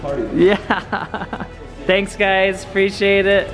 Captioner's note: laughs